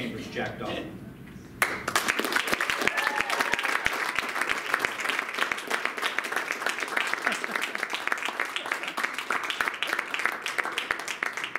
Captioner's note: applause and Cheers